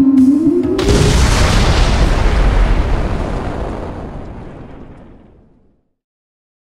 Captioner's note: explosion